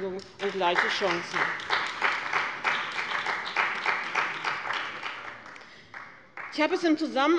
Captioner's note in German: Beifall bei dem BÜNDNIS 90/DIE GRÜNEN und der CDU